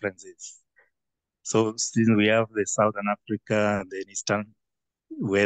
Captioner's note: faintly speaking